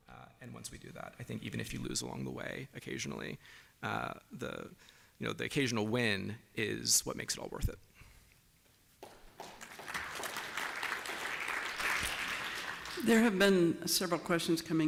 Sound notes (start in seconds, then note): 9.0 applause